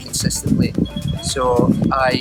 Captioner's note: cellphone ringing